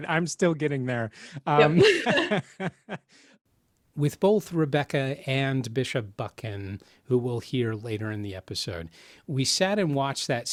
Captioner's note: laughs